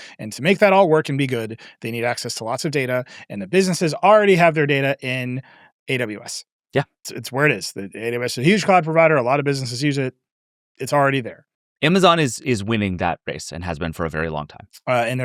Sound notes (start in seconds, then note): none